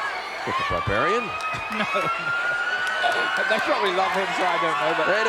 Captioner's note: laugh